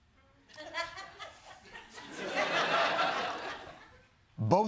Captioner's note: laughter